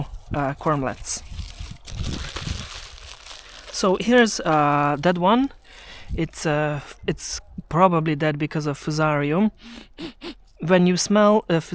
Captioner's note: sniffs the corm